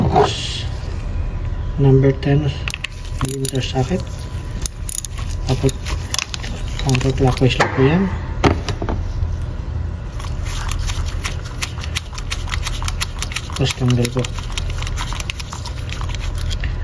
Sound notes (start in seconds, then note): 4.6 metal clinging; 10.4 unscrewing